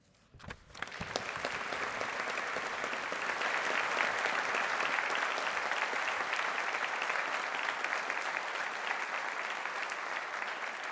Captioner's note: applause